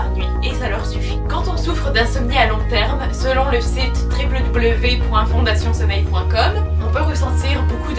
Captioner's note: in french only